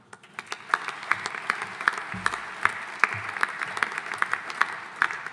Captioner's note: audience applauding